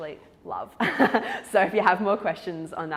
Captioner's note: laughs